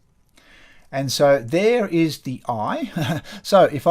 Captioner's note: chuckles